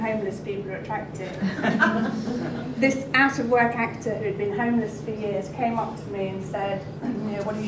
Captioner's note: laughter